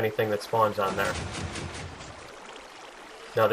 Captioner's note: pistons shifting